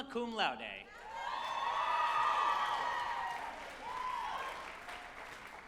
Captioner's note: group applauding and cheering